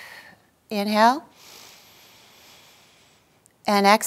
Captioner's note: exhaling; inhaling